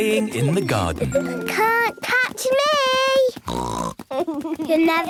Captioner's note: snort